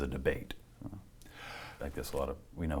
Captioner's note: inhales